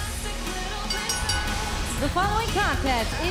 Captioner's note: bell ringing